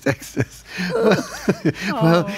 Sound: laughs

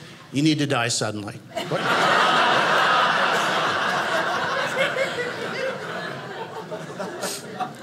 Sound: audience laughing

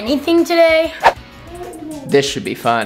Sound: air whistling

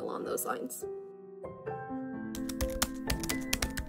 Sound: typing sound effects

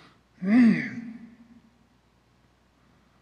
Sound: clears throat

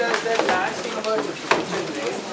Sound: indistinct conversation

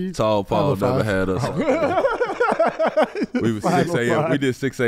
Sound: laughs

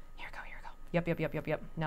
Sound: whispering

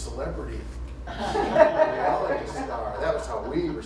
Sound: laughter

